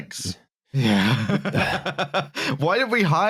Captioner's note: laughter